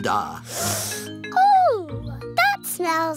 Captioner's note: sniffs